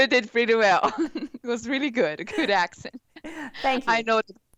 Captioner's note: laughing